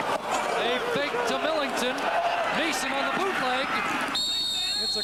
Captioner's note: cheers/Applause